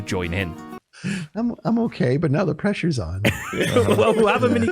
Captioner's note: group laughs